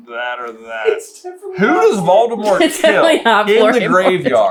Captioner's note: squeaky laugh voice; laughing